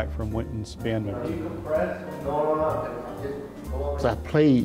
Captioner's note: indistinct conversation